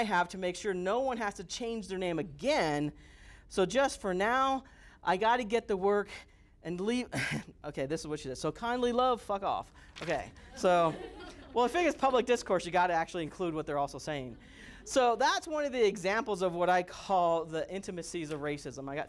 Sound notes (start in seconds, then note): 7.2 instructor laughs; 10.3 students laugh